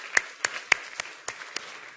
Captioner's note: applause